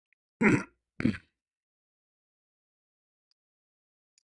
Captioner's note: clears throat; cough